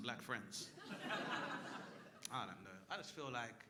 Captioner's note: crowd laughing